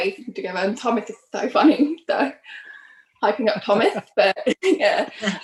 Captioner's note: laughter